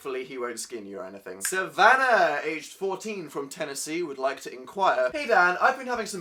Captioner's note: snaps